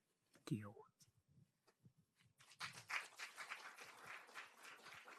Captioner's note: applause